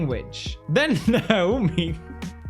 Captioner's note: laughs